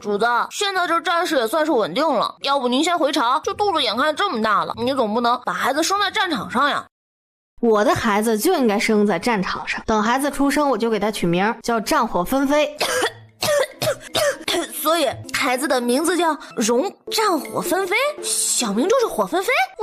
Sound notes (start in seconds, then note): 12.8 cough cough